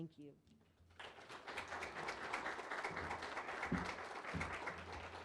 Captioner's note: audience applause